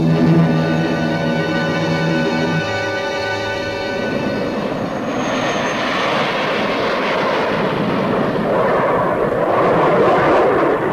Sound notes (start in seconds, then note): 0.1 plane engines roaring; 3.9 planes whooshing